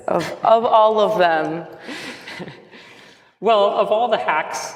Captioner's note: laughs